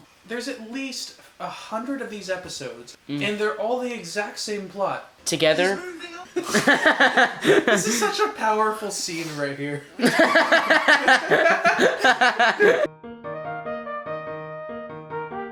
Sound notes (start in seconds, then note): 6.4 laughter; 10.0 laughs